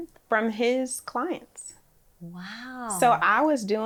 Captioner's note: none